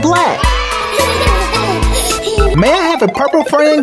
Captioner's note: Gaga Baby cheers